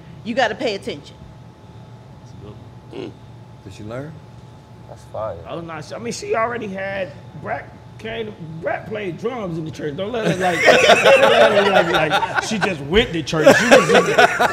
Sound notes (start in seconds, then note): 10.3 laughter drowns out